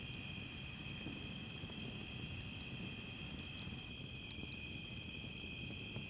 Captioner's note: crackling fire sounds